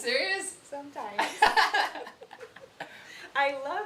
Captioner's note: laughing